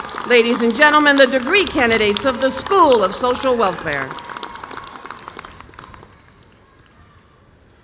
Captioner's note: applause